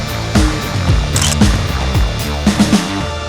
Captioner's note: photo Click